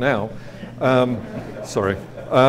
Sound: audience laughs

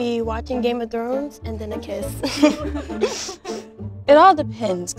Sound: chuckles

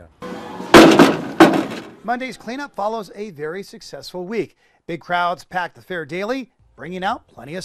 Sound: metal banging on truck bed

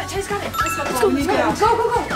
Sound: chime

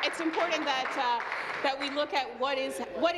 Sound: applause

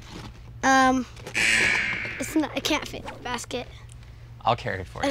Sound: buzzer

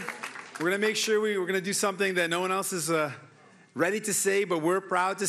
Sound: cheering and Applause

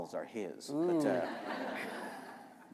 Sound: laughter

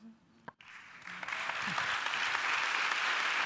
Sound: applause

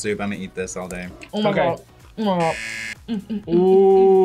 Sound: buzzer rings; laughs

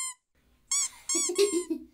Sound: squeak; squeaking continues

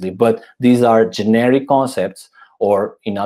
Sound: none

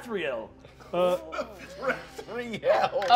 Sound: laughing

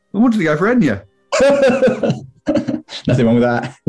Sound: laughing

